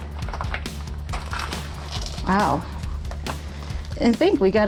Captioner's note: gravel crunching